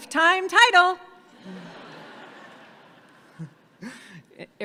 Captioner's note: audience laughing